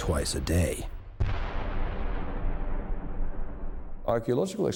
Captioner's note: booming